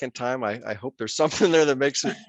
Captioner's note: laughter